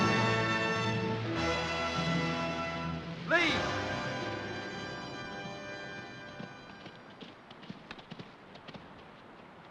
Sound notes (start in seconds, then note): 4.4 hoofbeats; 8.6 flowing water